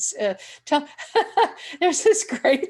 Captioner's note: chuckling